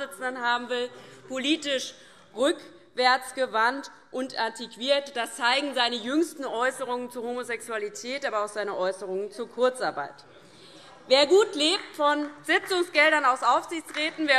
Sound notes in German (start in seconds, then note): 10.0 Beifall DIE LINKE